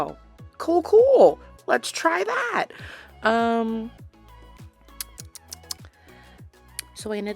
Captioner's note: smacks lips